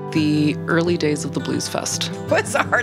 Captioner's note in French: riant